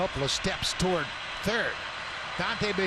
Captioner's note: cheering and Applause